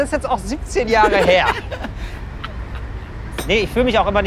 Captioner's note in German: lacht im Hintergrund